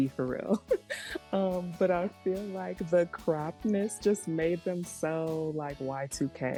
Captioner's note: laughs